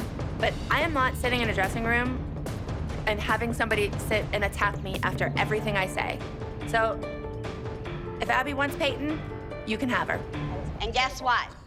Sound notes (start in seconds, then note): none